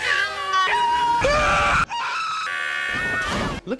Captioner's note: continued screaming